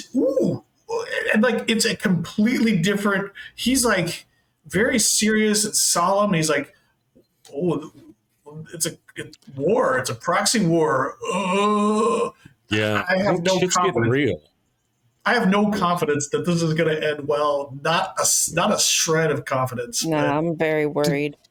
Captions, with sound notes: Ooh, and like it's a completely different, he's like very serious and solemn. He's like, "Oh, it's a war, it's a proxy war." (groaning) Yeah, it's getting real. I have no confidence that this is gonna end well. Not a shred of confidence. No, I'm very worried.